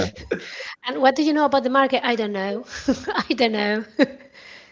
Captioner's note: laughter